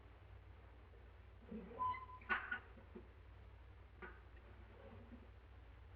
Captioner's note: drawer creaking